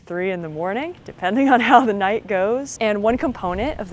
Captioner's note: laughs